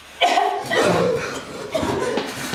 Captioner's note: choking gasps; hostile labored breathing; wheezing and coughing; distressed breathing; terrified gasp